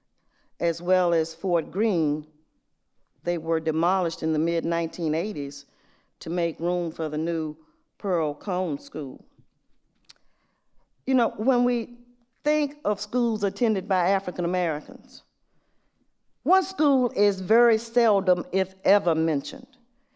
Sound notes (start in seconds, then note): none